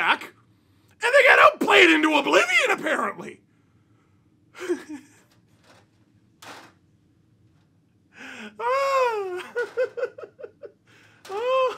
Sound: laughter

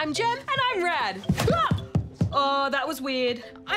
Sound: thumping

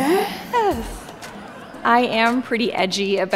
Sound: audience chuckling

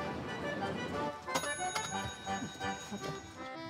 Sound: bell ringing

